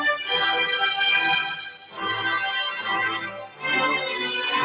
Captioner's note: none